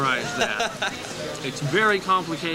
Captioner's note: laughter